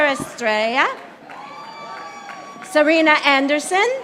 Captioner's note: audience applauding